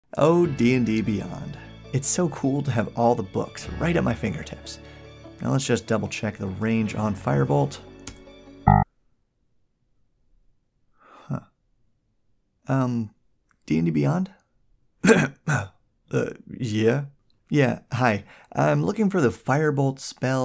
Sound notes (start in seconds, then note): 0.1 inspirational music; 8.6 error beep: 0 results